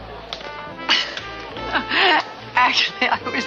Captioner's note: Liz laughs